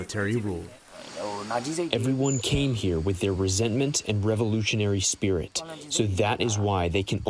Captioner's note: through translator